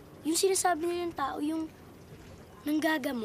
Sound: none

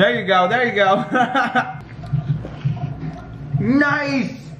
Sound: laughs

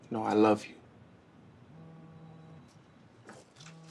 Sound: phone buzzing

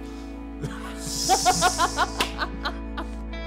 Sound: laughing

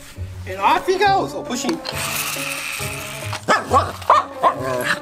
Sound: wheels whirring; Wiggles barks

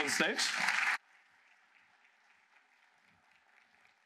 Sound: applause

